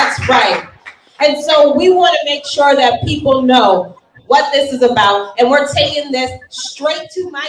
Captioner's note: cheering and applauding